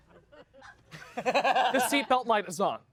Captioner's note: laughs